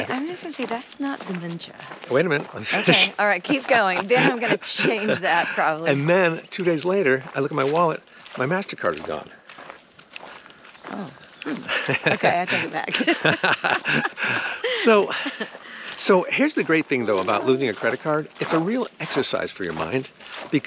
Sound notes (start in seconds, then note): 2.4 laughing amusingly; 13.4 both laughing amusingly